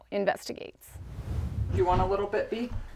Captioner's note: air whooshing